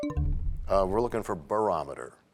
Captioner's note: bell chimes, time expires